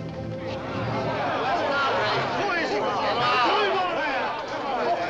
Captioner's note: ominous music begins; crowd clamors